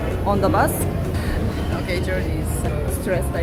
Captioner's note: laughs